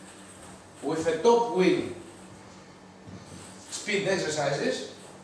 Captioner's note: none